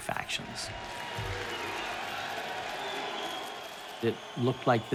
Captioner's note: soldiers cheering